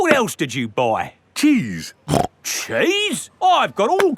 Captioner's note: snorts